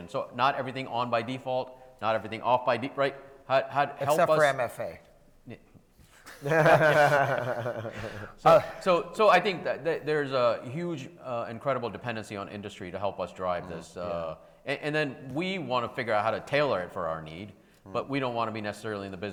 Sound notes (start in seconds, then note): 6.3 panel laughs